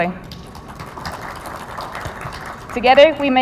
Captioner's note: audience applauding